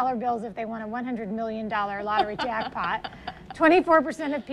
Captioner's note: laughs